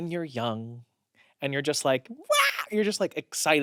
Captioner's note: shrieks